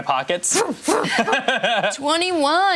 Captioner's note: laughs